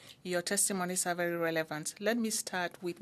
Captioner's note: speaking French